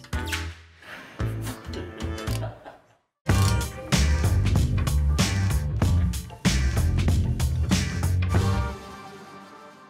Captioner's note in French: indicatif musical; rire